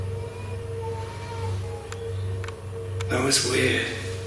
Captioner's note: baby crying